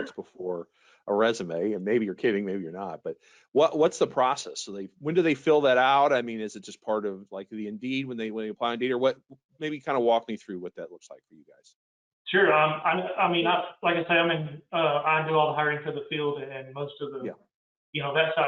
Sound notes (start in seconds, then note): 12.3 murmurs